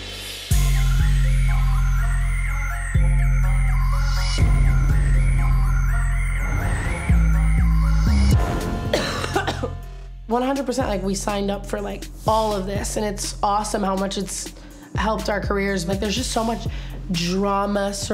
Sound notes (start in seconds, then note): 0.1 troubling music; 2.1 upbeat hip hop music; 10.7 Tana coughing